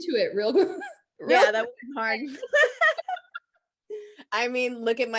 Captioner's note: both laughing